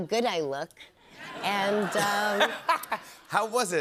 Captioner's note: laughs